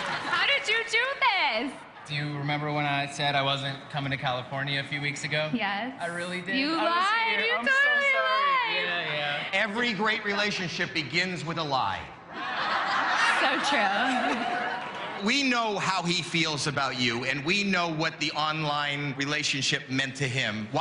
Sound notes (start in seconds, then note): 12.3 laughter